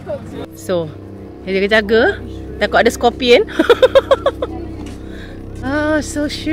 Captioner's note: laugh